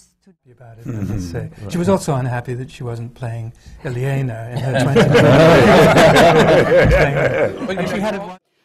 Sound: laughter

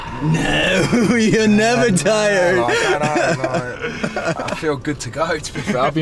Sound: laughing loudly

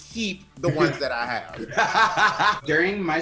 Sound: laughs

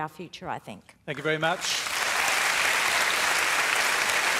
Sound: applause

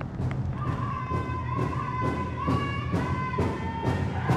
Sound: drums banging; people chanting

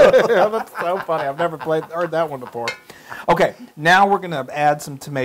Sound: laugh

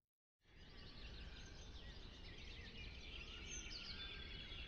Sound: birds chirping

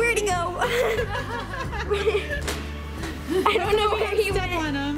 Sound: laughing

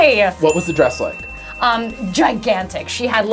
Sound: ding

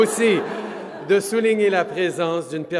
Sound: laughter

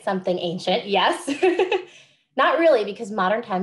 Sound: laughs

